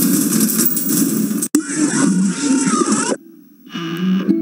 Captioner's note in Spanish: jumpscare